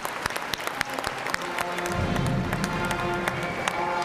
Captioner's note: cheers and applause